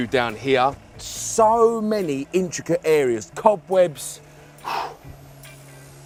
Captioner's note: blows cobwebs